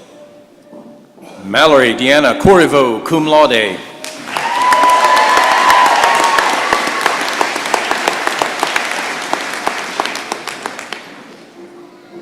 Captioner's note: applause and cheering